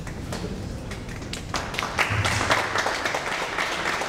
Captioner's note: audience applauds